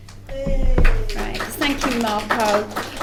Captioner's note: applause